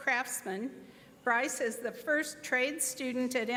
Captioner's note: none